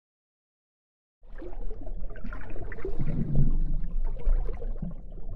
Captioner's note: water gurgling